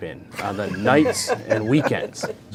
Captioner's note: panel laughing